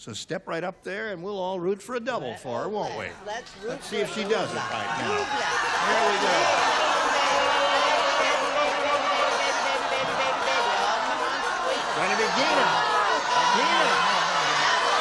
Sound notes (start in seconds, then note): 6.6 clamoring